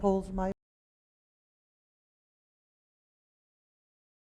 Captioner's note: audio cuts out